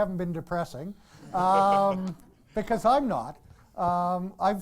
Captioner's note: audience laughs